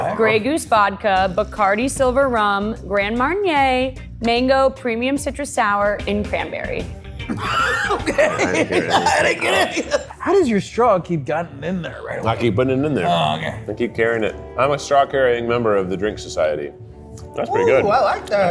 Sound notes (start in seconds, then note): 7.2 laughs